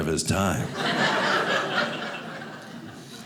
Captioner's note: audience laughing